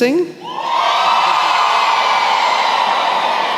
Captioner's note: cheering